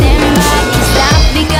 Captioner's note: biff!